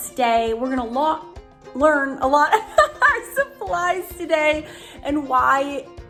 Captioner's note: laughs